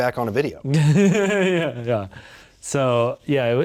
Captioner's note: laughing